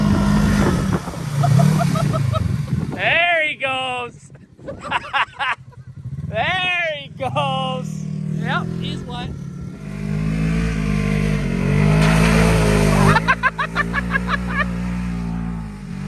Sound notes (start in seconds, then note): 1.3 laughing; 4.6 both laughing; 10.9 ATV engine roaring; 10.9 both laughing